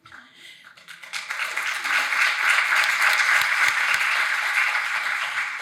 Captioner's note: audience applauding